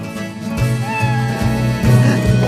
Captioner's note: meow